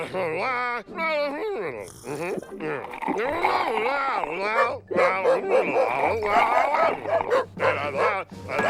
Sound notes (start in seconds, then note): 4.5 barking